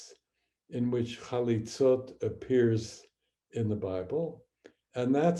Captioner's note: speaking hebrew